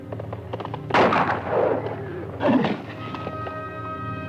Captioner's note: gun fires